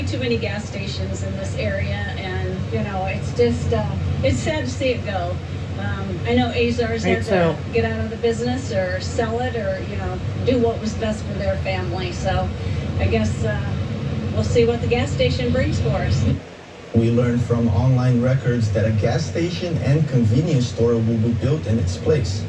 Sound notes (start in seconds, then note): 9.5 on TV; 17.1 on TV